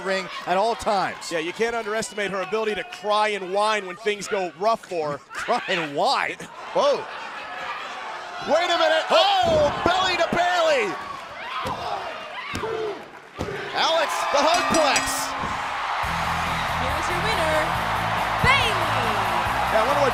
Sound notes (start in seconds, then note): 14.3 bell ringing; 17.2 crowd cheering